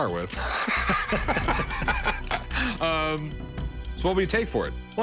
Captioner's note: laughs